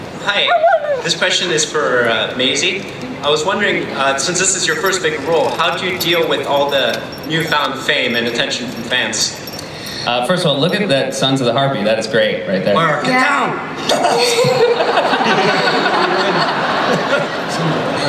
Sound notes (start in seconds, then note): 0.3 voiceover; 13.8 laughter